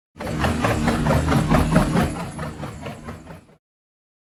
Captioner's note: wings resume fluttering